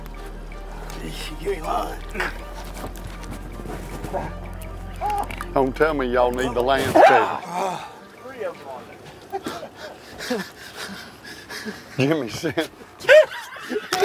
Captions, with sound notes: - You ain't lying. (soft music playing) - Don't tell me y'all need the land too. - There's three of them on there! (laughing) - Jimmy's set (laughing)